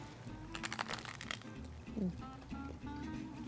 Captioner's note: crunch